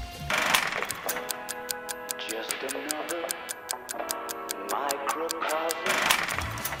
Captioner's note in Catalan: tic-tac